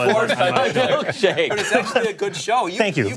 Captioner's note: laughter